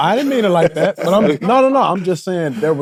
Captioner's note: both laughing